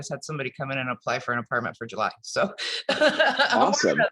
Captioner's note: laughs